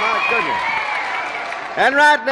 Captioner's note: cheers and applause